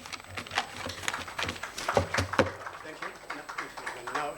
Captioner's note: attendees applauding